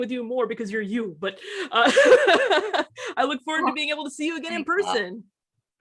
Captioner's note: laughs